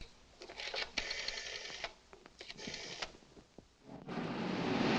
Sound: rotary phone dials; car rumbling

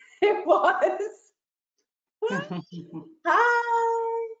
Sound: chuckles

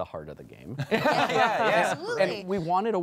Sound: laughing

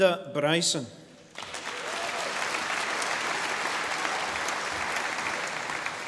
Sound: audience applauding

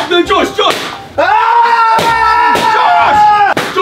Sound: screams

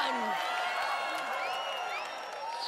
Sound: cheering

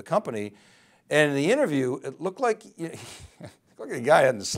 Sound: chuckles

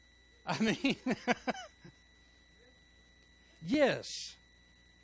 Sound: laughs

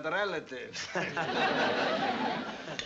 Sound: laughter

